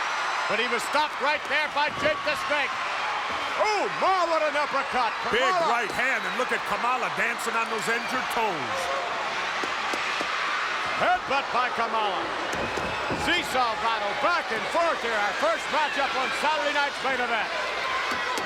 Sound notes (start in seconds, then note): 9.0 crowd roars